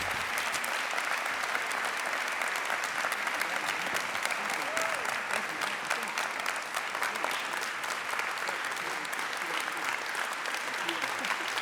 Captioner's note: applause